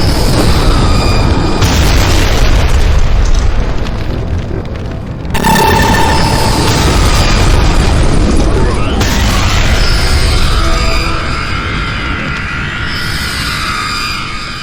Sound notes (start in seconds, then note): 0.1 explosions booming; 5.3 laser blasting